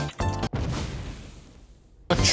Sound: distant mushroom explodes

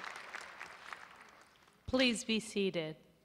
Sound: applause

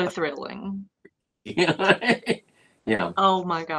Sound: laughter

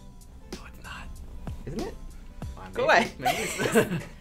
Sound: whispers

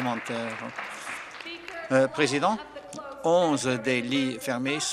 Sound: applause

